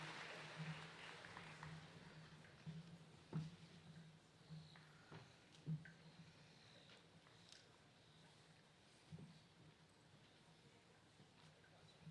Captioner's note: cheers and applause